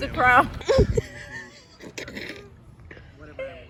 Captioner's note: all laughing